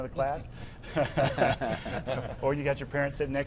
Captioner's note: laughing